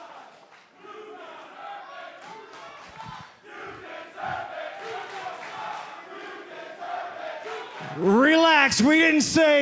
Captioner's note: fans chanting